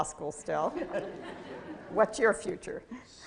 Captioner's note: laughter